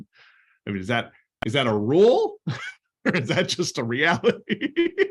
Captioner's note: laughter